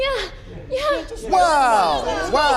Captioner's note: chattering